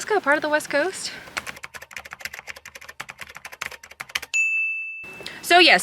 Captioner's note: typing sound effect